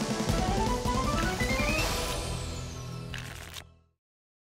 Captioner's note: shuffling sound